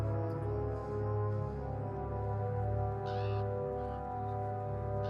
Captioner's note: crow cawing